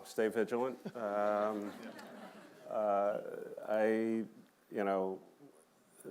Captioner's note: laughter